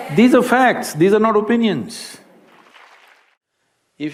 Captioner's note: applause